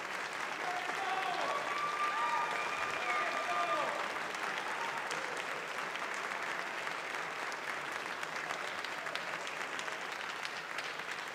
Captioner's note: applause